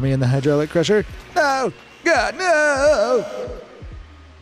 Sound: shouting

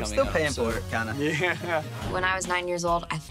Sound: laughing

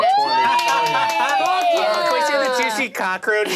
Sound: all cheering

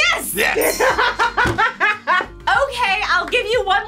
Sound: laughs

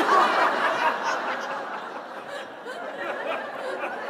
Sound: laughter

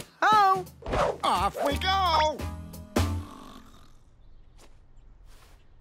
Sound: snoring

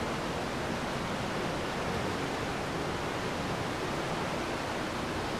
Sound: water rushing

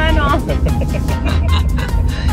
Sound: laughs

